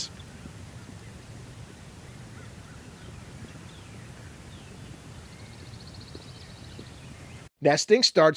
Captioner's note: turkeys and nature sounds